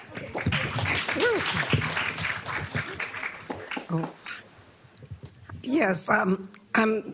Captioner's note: applause